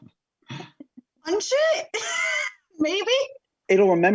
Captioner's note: laughing; laughing